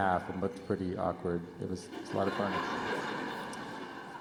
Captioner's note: laughter